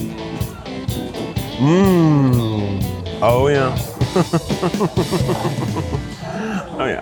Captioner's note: chuckling